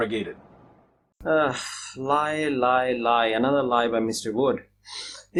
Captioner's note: sighs